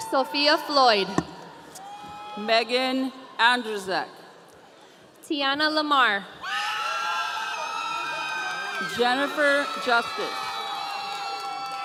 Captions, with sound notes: - Sophia Floyd. - Megan Andrezak. - Tiana Lamar. (audience cheering) - Jennifer Jusak.